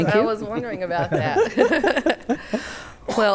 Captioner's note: laughter